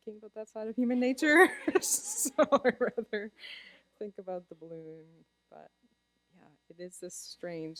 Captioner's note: laughter